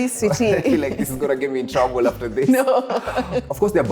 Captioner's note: laughs